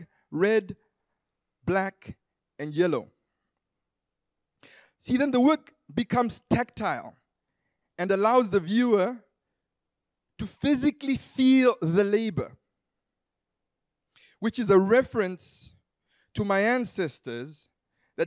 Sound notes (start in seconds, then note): none